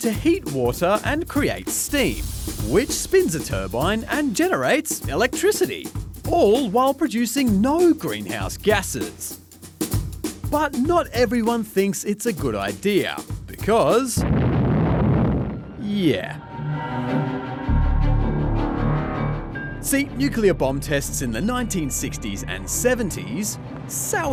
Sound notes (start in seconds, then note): 14.1 loud explosion